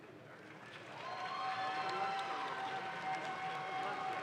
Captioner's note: audience claps